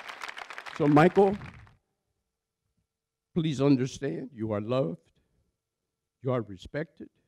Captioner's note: applause